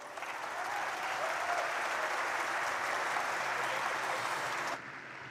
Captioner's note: audience applauds and cheers